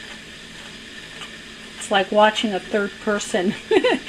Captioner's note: laughter